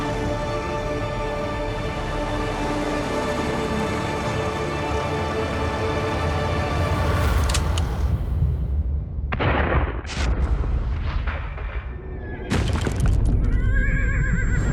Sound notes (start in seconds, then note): 9.3 gunshots; 11.6 gunshot; 11.6 horse whinnying